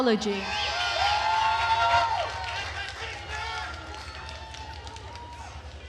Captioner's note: attendees cheering and applauding